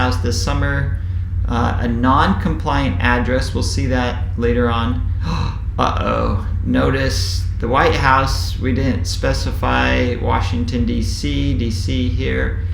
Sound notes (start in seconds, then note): 5.1 sigh